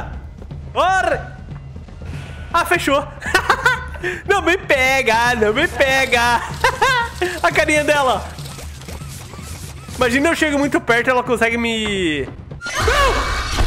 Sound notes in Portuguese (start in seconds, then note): 3.2 Risos; 6.4 Risos